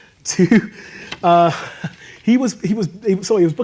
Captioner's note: laughs